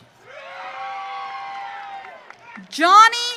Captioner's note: audience cheering